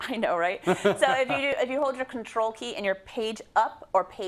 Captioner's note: laugh